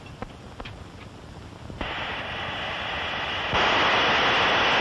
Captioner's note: gas hissing